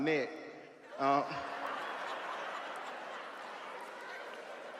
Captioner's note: audience laughs